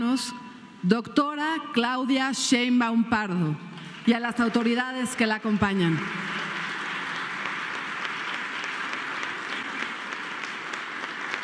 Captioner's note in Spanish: aplausos